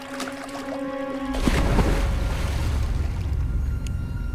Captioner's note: water splashing; tense music